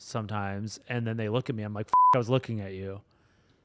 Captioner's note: beep